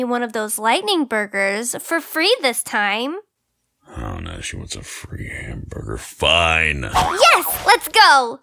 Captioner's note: grumbles